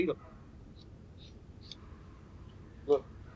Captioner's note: tool scraping